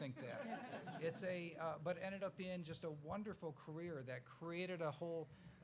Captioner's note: laughs